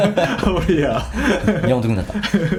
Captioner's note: laughs